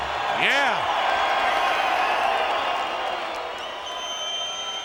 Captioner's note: audience cheering